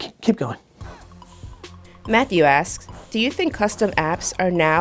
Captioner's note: voiceover